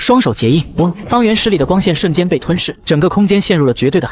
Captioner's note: whoosh!